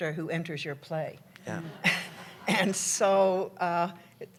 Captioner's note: laughter